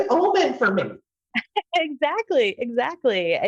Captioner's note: laughs